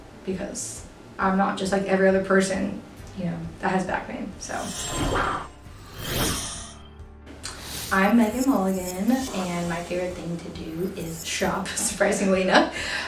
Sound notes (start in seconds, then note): 4.4 air whooshes; 4.4 metal grates; 6.2 air whooshes